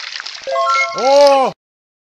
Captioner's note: level up sound